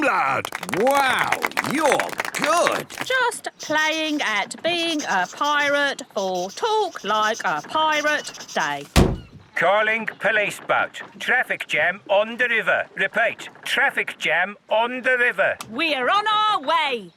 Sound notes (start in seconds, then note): 0.4 clapping; 9.0 voice over radio